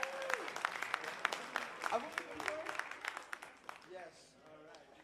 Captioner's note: cheers and applause